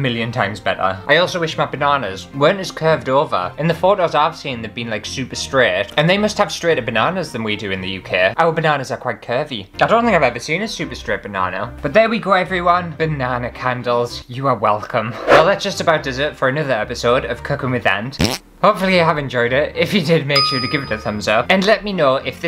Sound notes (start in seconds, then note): 18.2 fart